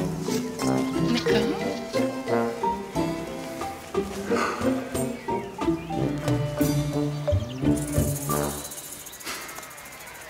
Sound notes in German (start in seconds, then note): 3.0 Er seufzt; 5.1 Trippelnde Musik